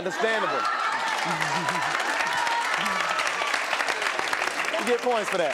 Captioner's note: applause